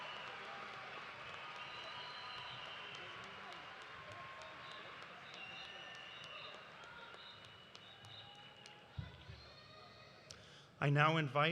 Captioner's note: cheers and applause